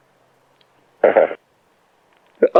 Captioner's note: laugh